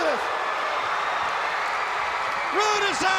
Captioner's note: crowd cheering